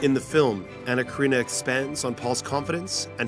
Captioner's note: voiceover